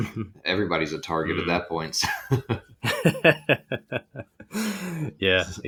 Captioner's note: both laughing